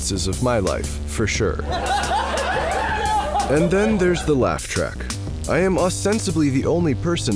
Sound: laugh Track

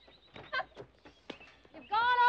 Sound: giggling

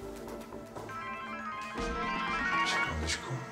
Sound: phone rings

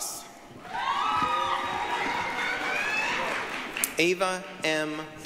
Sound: applause, cheering

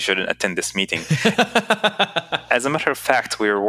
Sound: laughs

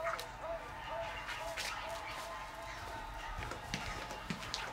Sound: crowd cheering

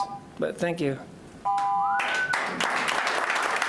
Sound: clapping

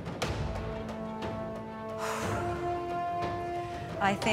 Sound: dramatic music plays; exhales deeply

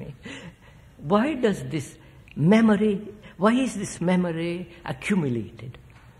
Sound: laughs

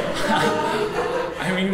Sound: audience laughs

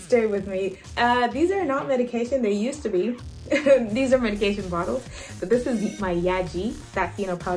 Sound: laughs

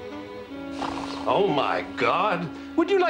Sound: peaceful snoring; snores

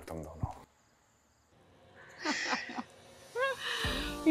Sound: laughter

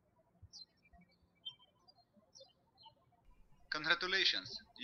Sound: birds chirping

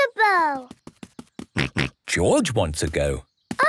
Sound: snorts

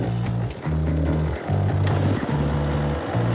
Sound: engine revs

